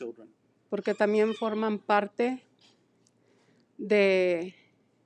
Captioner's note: speaking in foreign language